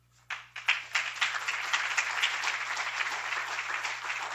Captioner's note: applauds